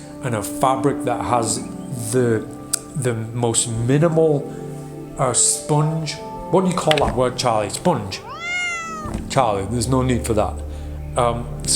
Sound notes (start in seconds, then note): 8.1 cat meowing